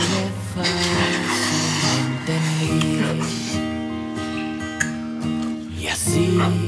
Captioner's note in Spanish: Sollozos